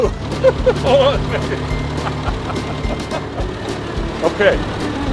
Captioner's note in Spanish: risas